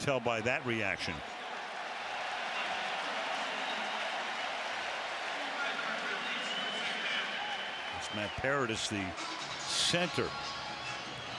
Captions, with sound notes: And you can tell by that reaction. [referee call] [cheers, applause] There's Matt Paradis, the center.